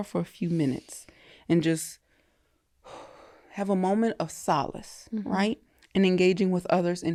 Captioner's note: exhales